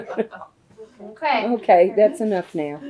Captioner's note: laughter